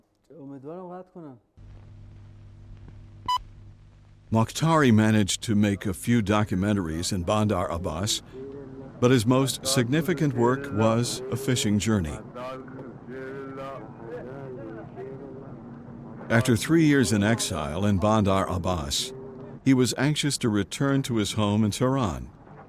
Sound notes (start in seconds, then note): 3.2 machine beeping; 13.0 man chanting in foreign language